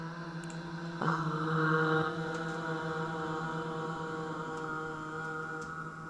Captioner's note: soft sounds of 'ah'